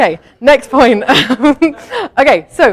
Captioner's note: chuckles